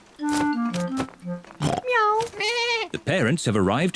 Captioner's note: all makes animal sounds